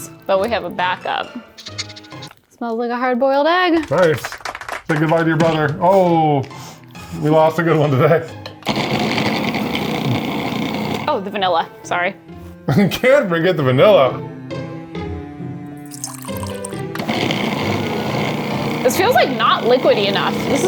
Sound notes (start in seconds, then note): 8.6 food processor whirring; 15.8 upbeat music; 16.8 food processor whirring